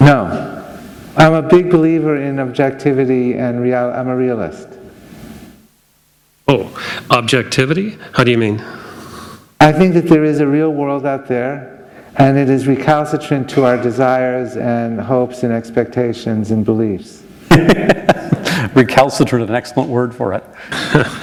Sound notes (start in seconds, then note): 17.4 laughter